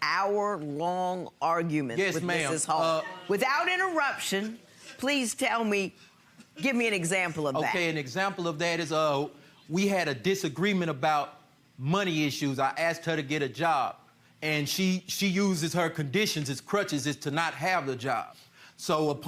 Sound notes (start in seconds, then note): none